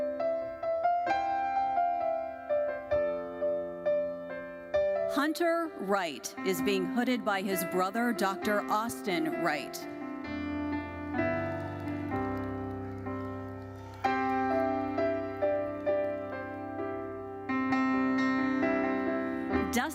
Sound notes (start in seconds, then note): 0.3 gentle uplifting music continues; 9.7 gentle uplifting music continues; 10.7 audience applauding; 17.3 gentle uplifting music continues